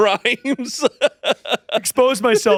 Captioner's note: laughing